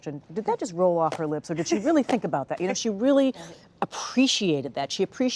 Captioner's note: laughter